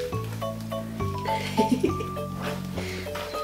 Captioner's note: mum giggles